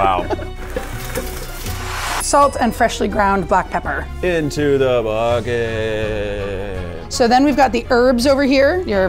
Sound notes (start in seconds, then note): 0.5 splashing